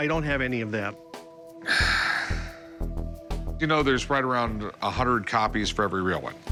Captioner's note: sighs